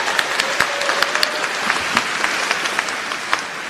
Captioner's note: applause